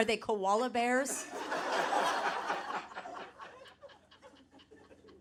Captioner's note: audience laughing